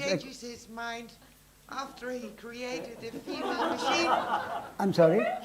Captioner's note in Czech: smích